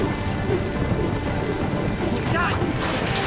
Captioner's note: hoofbeats